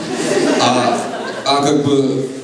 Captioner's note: laughter